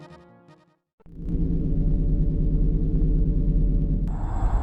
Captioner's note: humming sound